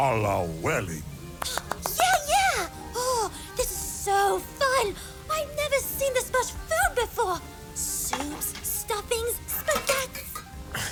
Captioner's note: claps excitedly